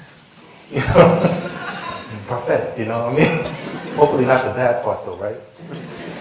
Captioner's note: laughter